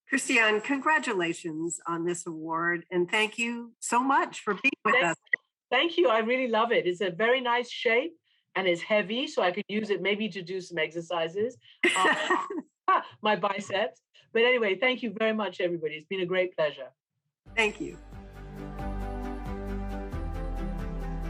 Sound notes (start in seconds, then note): 11.8 laughs; 17.5 bright music